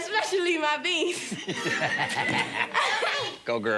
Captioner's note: laughing